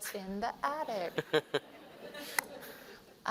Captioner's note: laughter